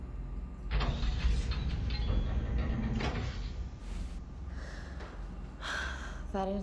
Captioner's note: metal bolt turning